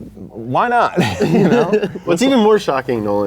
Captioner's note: chuckle